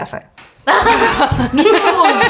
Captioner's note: laughter